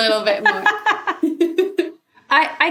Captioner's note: laugh